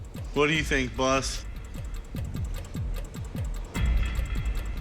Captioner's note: clock ticking